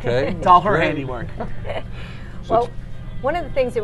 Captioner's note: laughter